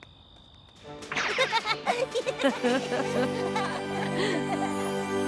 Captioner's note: both laugh